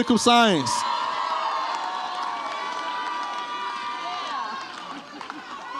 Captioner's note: audience applauds and cheers